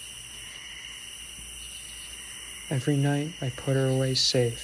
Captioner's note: insects chirping